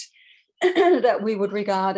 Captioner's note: clears throat